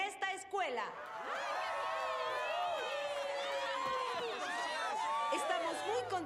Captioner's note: cheers